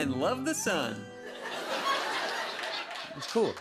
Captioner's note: laughter